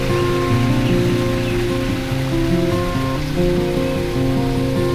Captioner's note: water trinkling, birds chirping